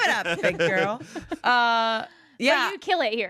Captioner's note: everyone laughs